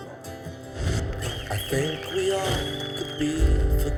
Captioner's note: applause